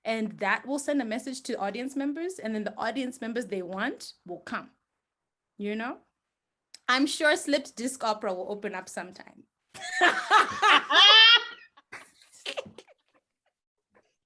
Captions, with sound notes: and that will send a message to audience members. And then the audience members they want will come, you know? I'm sure Slipped Disc Opera will open up some time. (all laugh)